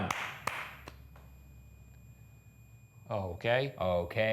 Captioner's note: REM-Pod beeping